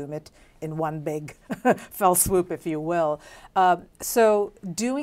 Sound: laughs

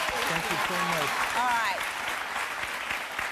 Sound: audience applause

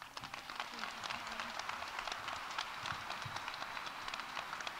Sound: audience applauding

